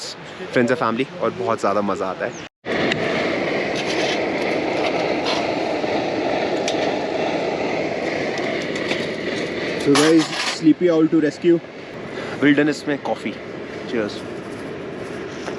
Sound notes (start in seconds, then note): 3.2 water boiling